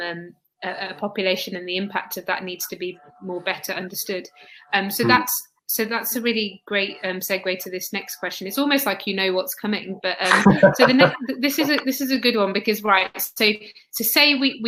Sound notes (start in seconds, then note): 4.9 erm; 10.2 erm; 10.2 laughter